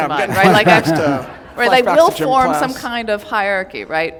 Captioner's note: laughter